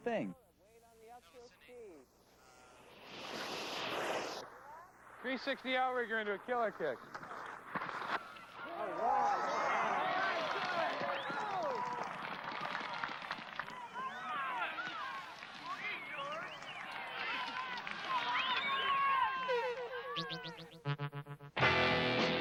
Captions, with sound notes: It's the young generation doing their thing. [skis swoosh] 360 and a killer kick. [crowd cheers and applause]